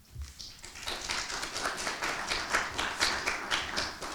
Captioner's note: audience applauding